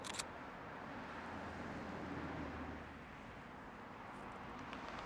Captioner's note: camera clicks